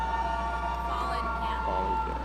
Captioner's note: audience cheering